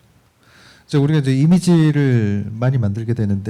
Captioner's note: speaking korean